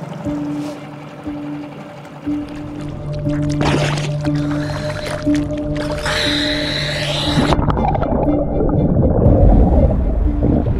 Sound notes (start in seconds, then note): 0.2 somber piano music continues; 4.0 water gurgling